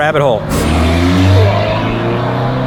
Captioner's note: car revs